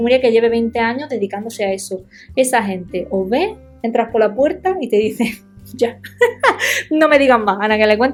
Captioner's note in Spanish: risas